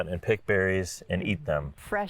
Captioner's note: none